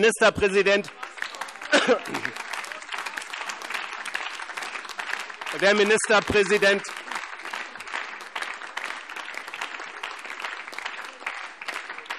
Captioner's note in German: Anhaltender Beifall BÜNDNIS 90/DIE GRÜNEN und CDU